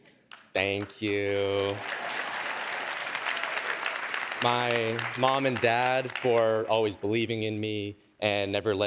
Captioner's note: cheers and applause